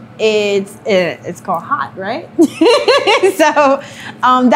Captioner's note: laughs